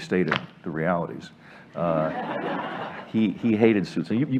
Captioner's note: laughter